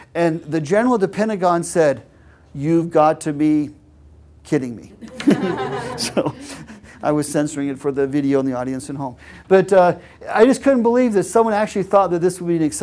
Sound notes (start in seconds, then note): 5.0 laugh